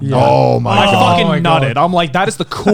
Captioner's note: chuckles